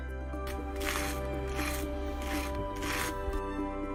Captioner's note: bread grinding